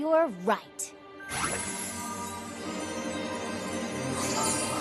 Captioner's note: tinkling